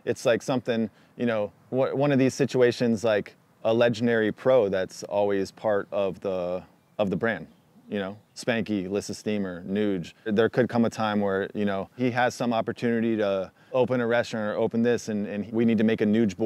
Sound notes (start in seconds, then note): none